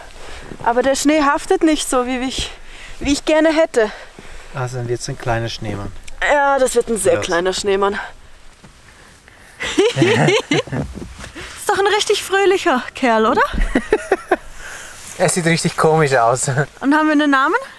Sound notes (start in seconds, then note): 9.6 both laugh; 13.5 laughs